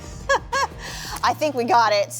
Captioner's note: laughing